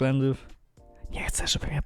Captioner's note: whisper